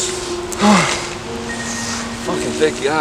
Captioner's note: both Inhale and Exhale Deeply